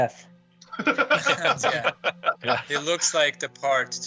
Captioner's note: laughing